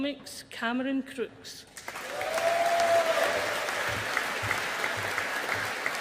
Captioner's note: audience applauding